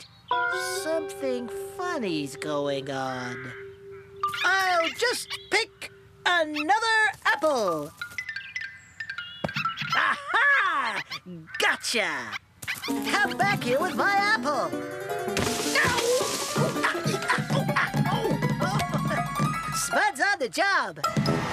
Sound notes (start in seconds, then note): 4.1 theatrical Voice; 15.3 crash!